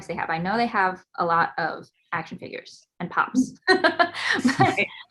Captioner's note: laughs